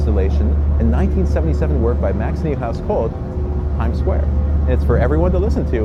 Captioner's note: hum